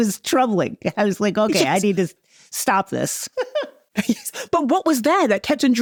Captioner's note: chuckles